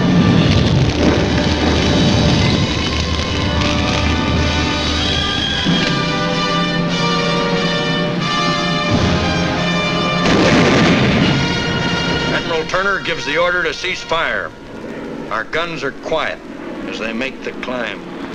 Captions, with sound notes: (flames crackling) (dramatic patriotic music) (guns blasting) Admiral Turner gives the order to cease fire. Our guns are quiet as they make the climb.